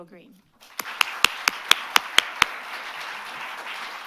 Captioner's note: applause